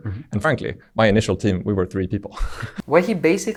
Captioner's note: chuckles